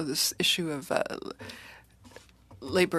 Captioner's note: speaking in french